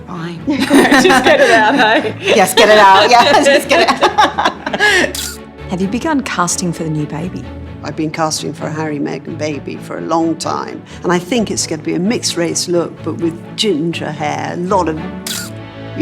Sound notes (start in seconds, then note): 0.5 laughter; 4.8 laughs